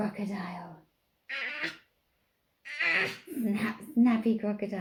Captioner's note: baby murmurs